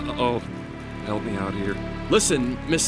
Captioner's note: laughs nervously; hushed